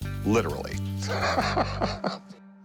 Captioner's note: laughs